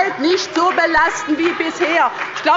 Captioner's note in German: Demonstrativer Beifall bei dem BÜNDNIS 90/DIE GRÜNEN